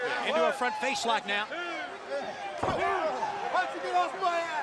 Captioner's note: crowd chatter